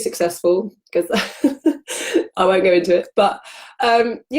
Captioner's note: laughs